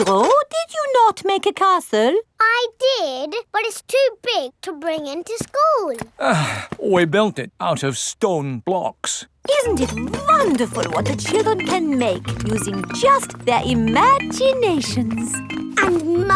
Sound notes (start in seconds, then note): 6.1 sighs